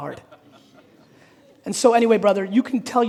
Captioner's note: audience laughing